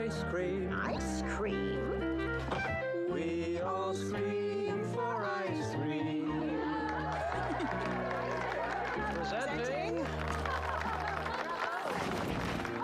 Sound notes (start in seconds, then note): 6.8 applause